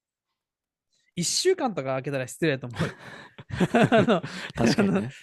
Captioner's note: laughs